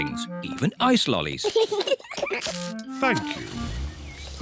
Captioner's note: both laugh